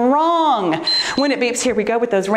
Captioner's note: timer beeps